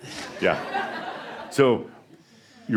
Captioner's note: more chuckles